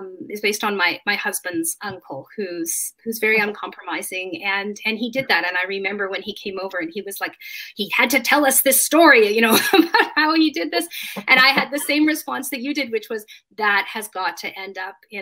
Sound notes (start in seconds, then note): 11.0 laughing